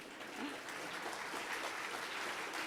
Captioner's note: crowd Clapping